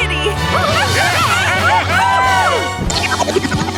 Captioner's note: cheering